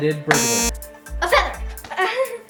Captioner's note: beep